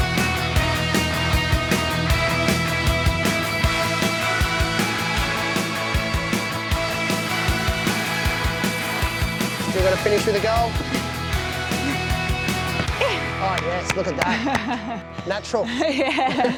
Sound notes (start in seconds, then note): 14.1 laughs